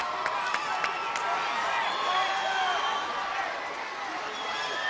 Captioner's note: crowd cheering